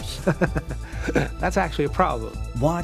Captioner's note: chuckling